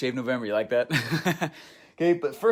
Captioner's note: laughs